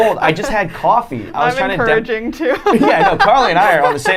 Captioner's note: laughing; laughing